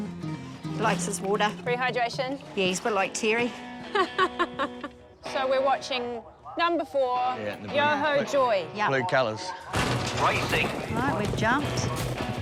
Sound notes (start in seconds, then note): 3.6 laughs